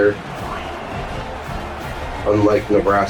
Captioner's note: crowd Noises